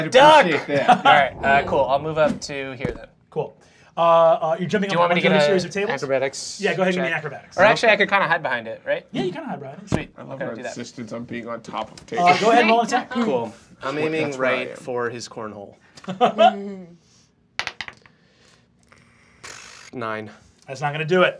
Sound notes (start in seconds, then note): 16.9 dice clacking